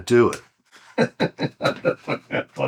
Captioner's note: laughing